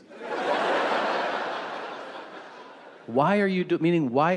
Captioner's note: audience laughing